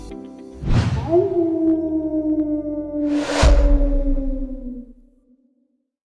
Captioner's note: coyote howl